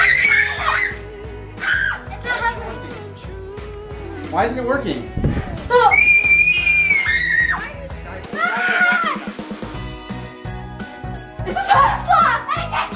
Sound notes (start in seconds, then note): 0.0 squealing; 5.7 squealing; 9.9 upbeat holiday music